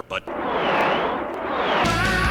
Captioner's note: whoosh... whooooosh